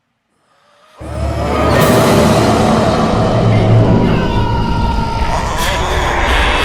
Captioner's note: horrible scream